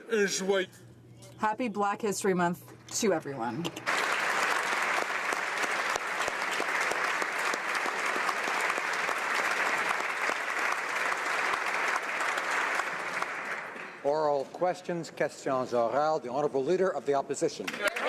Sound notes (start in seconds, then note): 8.9 applause